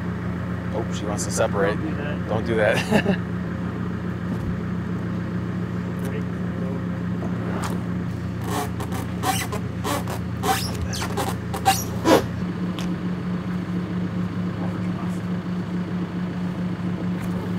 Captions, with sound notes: - Oh, she wants to separate. - Don't do that. - Don't do that. - Three, two. (wood creaking) (engine running)